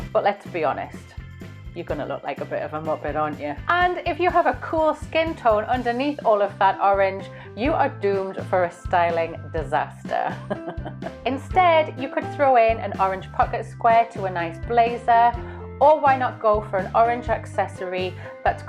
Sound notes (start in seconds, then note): 10.2 laughs